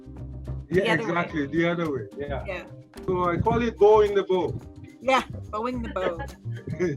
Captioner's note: laughs